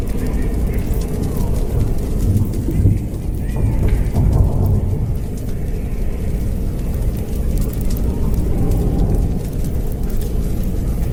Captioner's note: walks away & cell door shut